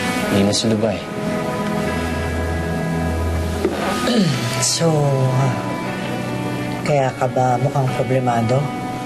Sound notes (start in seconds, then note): 4.0 jack clears throat